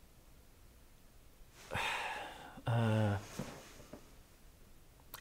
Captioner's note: sighs